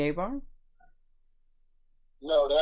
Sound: laughing

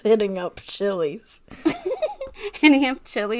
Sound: laughs

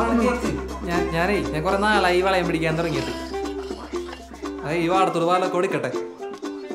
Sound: talking on phone

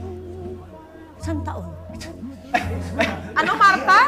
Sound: chuckles

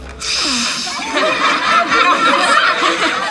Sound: laughing

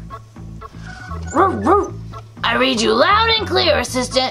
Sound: dog barking

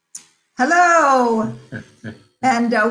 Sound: laughs

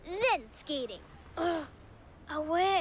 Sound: groans

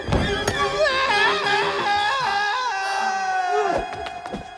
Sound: screams

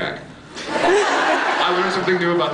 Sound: laughs

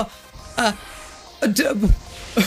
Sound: baffled babble

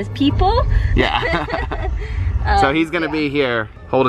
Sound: laughter

